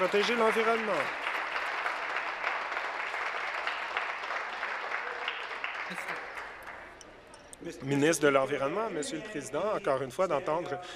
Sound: some Applause

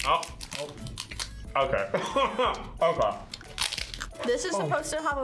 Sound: laughs

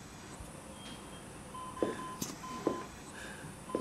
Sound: ventilator beeping

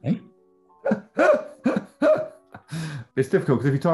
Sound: laughing

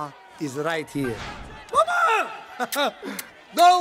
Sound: chuckles

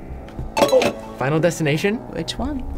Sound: bell dings

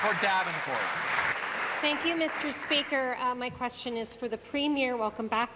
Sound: applause

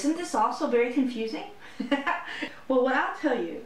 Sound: laughter

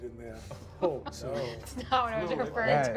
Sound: all murmur

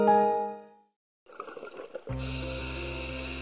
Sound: air bubbles up through water and breathing

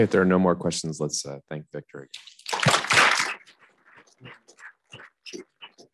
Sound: audience clapping

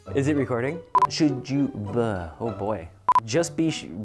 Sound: beeps

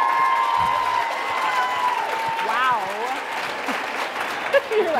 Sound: applause

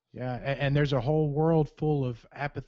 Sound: voiceover

